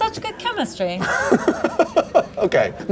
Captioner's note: laughing